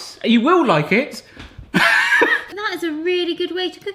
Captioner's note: laughs